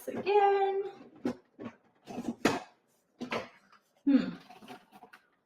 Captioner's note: container rattling